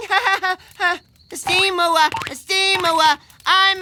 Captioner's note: Pelswick laughing